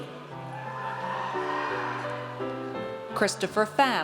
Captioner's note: audience cheers